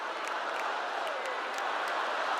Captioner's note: cheers and applause